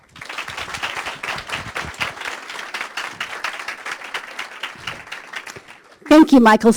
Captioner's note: applause